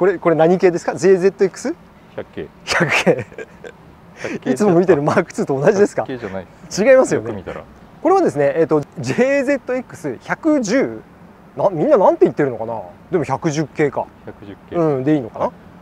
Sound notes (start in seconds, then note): 2.7 laughs